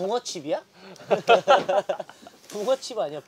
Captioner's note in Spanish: Jajaja